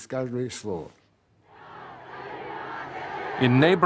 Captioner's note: crowds chanting